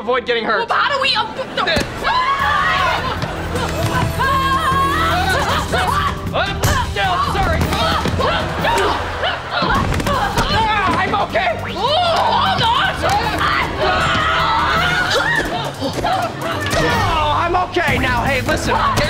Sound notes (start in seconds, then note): 2.1 screaming; 7.7 grunting